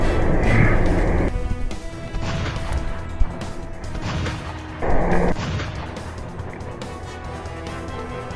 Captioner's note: heartbeats; gunshots